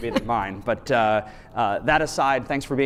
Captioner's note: chuckles